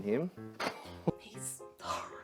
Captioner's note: laughs